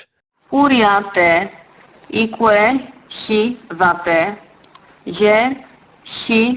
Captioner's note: woman speaking in foreign language